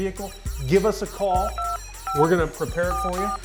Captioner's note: cell phone buttons beeping